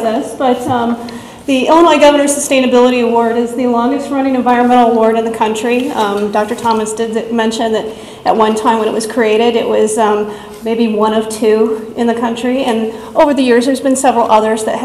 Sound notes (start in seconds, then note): none